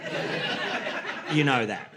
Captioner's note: laughter